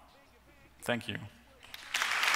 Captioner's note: applause